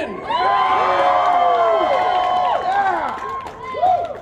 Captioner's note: cheering